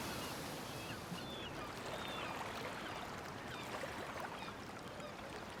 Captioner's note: seagulls squawking